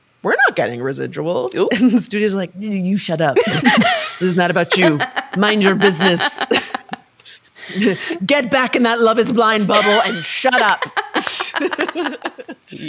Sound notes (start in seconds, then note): 4.6 laughing; 9.7 laughing